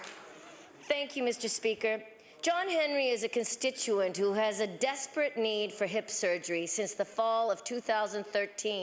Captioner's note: applause